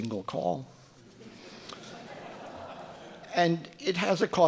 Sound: audience laughing

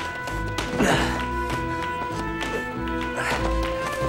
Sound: grunting

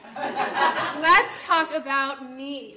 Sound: audience laughter

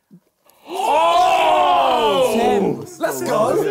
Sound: crow booing

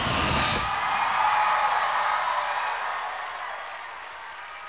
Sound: crowd cheering

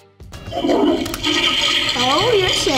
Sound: toilet gurgles

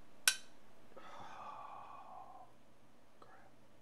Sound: sighs

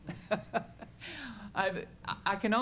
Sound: chuckles

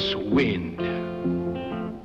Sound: wind whistles

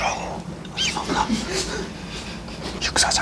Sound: yelps

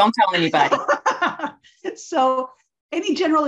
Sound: laughs

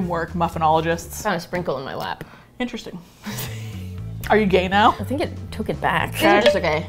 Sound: laughs

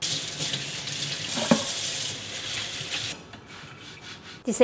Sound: water splashing

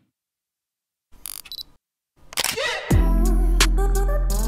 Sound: camera clicks; upbeat music

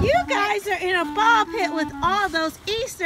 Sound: voiceover

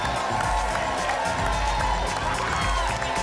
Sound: applause and cheering cont

